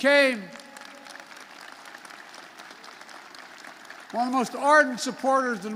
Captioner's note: applause